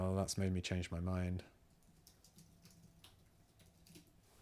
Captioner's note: silence